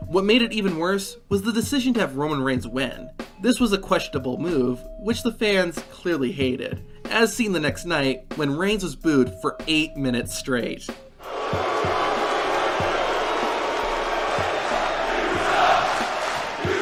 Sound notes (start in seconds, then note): 11.2 crowd booing; 15.1 crowd